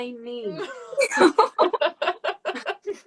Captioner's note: laughing